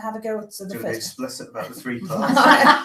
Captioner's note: laugher